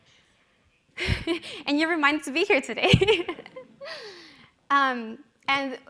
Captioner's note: laughing